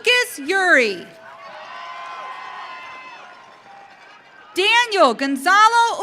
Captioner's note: audience cheering